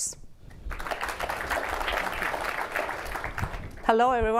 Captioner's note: applause